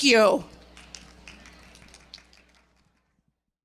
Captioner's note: audience applauds